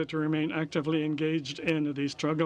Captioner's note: speaking french